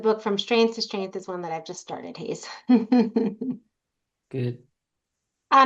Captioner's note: laughs